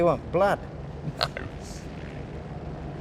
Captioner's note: laughs